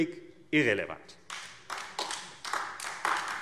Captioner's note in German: Beifall AfD